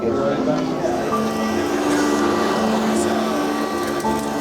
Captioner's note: vacuum buzzing